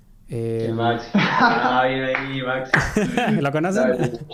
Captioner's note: laughs